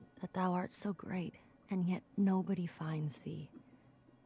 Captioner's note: none